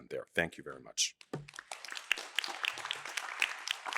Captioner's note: applause